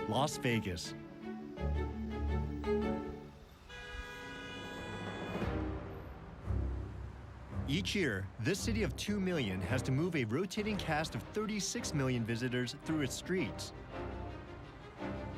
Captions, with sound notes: ...LAS VEGAS. [ HORN BLARING ] EACH YEAR. THIS CITY OF 2 MILLION HAS TO MOVE A ROTATING CAST OF 36 MILLION VISITORS THROUGH ITS STREETS.